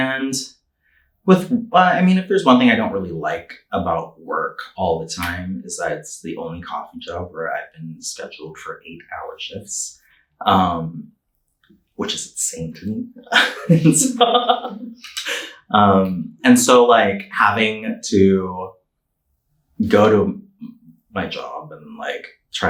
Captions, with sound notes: And I mean, if there's one thing I don't really like about work all the time, is it's the only coffee job where I've been scheduled for eight-hour shifts, which is insane to me, (laughing) it's long. And so like having to go to my job and like,